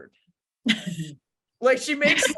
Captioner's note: laughing